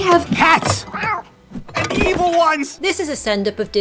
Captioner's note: meows